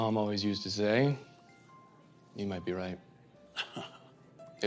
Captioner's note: chuckles